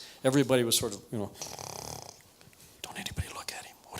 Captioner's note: snores